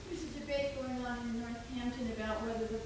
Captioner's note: woman's Voice